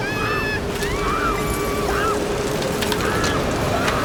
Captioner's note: screams